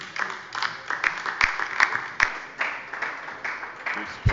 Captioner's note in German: Beifall bei der LINKEN